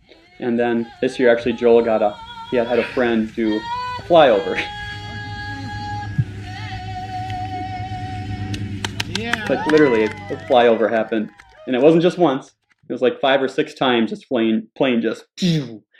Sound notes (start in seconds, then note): 8.5 audience cheering